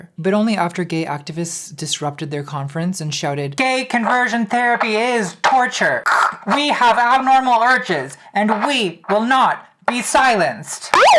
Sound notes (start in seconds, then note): 6.1 imitating static hissing